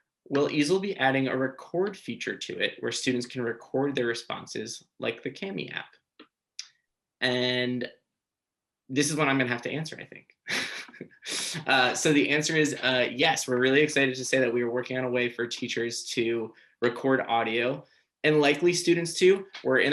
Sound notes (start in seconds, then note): 10.5 chuckles